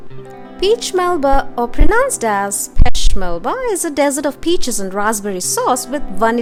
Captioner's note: french